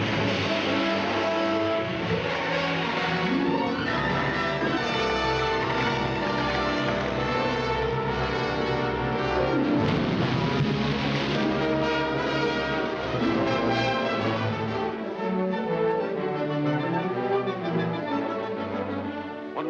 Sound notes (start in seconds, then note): 0.2 epic orchestral music; 9.8 big splash; 11.3 epic orchestral music